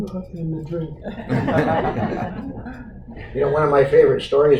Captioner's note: audience Laughter